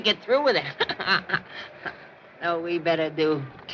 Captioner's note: chuckles